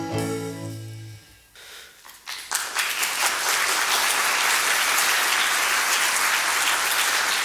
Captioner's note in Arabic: توقف الموسيقى، تصفيق